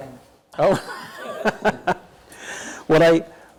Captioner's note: laughs